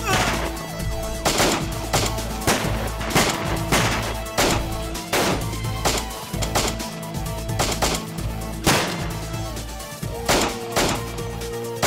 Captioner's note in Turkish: si̇lah sesleri̇